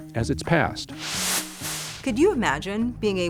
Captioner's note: screen hisses